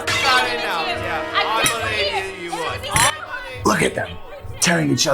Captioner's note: indistinct arguing continues